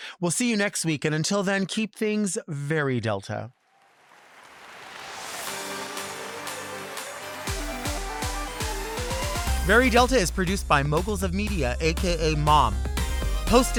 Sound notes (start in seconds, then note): 3.6 audience applauds; 5.2 upbeat music